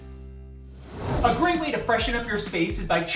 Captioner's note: air whooshes